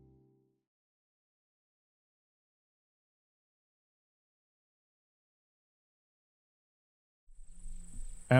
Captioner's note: no audio